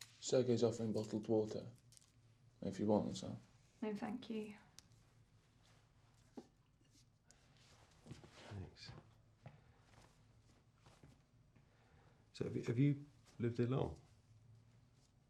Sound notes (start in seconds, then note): none